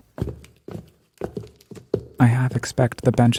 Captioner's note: footsteps echo